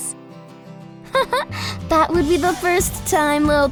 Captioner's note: laughs